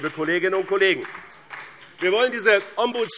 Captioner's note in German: Beifall BÜNDNIS 90/DIE GRÜNEN und CDU